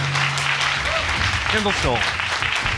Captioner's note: audience clapping